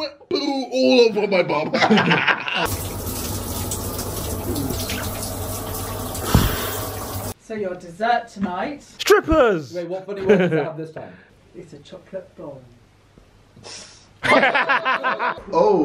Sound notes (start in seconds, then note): 2.6 showers trickling; 2.8 sighs; 14.2 laughing